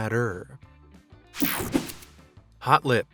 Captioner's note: whooshing sound